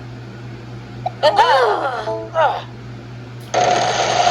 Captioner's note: Martin and Tomoko groan; Maria cheers